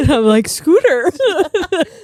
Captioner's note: both laughing